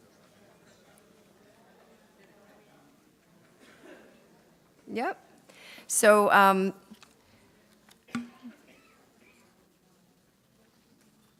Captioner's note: audience chatter